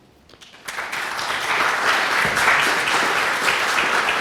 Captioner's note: applause